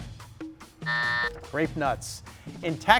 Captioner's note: timer buzzes